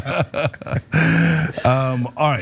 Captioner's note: laugh